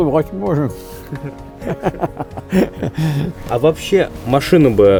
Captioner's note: laughing